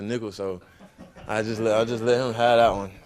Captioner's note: audience laughing